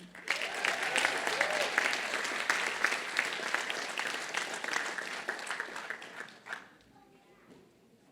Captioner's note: applause